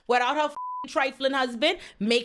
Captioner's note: beep